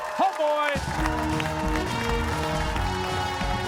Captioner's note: cheers and applause